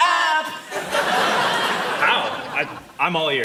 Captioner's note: crowd laughing